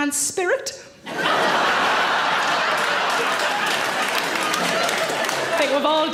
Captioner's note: audience laughs and applaud